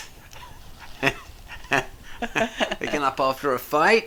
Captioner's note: both laugh